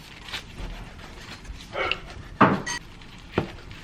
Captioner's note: hiccups are so cute… Hahahaha